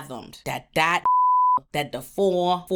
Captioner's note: beep